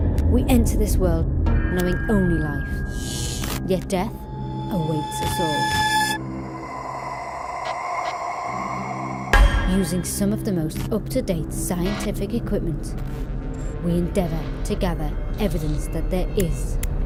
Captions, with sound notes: - We enter this world knowing only life. Yet death awaits us all. (ghostly breathing) Using some of the most up-to-date scientific equipment, we endeavour together evidence that there is